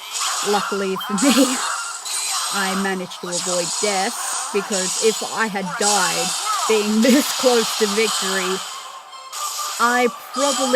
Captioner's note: laughter